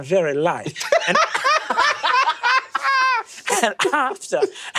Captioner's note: cackles